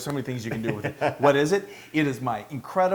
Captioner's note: laugh